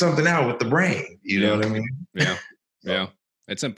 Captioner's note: chuckles